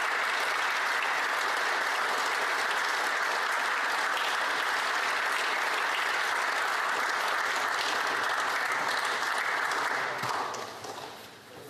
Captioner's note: applause